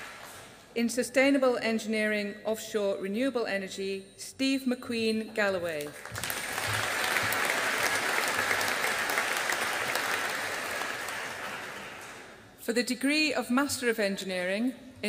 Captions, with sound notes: In Sustainable Engineering, Offshore Renewable Energy, Steve McQueen Galloway. (AUDIENCE APPLAUDING) For the degree of Master of Engineering